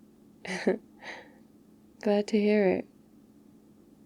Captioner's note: laughs